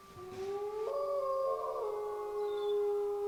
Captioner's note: wolves howl